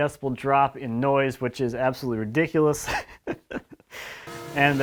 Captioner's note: chuckles